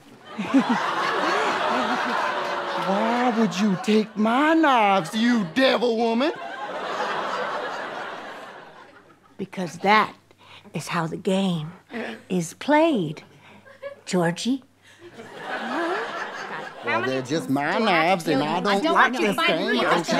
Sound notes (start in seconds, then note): 0.2 audience laughing; 6.7 audience laughter